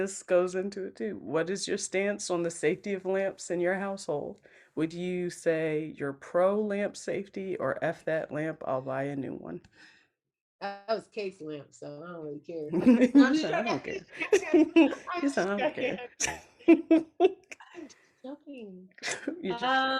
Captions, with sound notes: - This goes into it too. What is your stance on the safety of lamps in your household? Would you say your pro lamp safety or F that lamp, I'll buy a new one? - That was Casey's lamp, so I don't really care. (everyone laughs) I'm just joking. I'm joking.